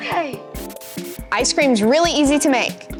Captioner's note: TV screen crackles